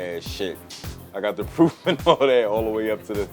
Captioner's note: laughing